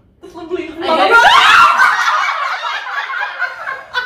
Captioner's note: laughing so hard